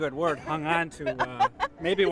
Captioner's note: laughter